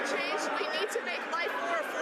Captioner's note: some Applause